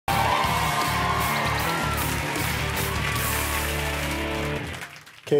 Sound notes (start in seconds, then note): 0.0 crowd cheering